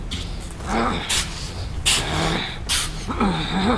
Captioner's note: Max grunting